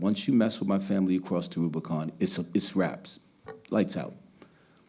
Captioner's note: speaking Spanish